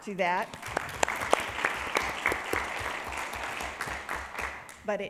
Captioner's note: people clapping